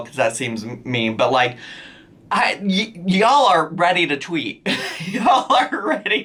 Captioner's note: laughs